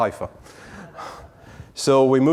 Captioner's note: audience chuckling